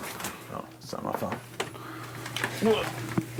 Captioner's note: grunts